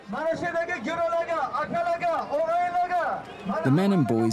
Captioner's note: man speaking Uzbek over a microphone